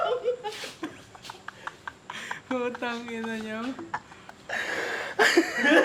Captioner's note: laughs; laughter